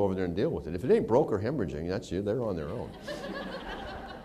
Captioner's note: laughter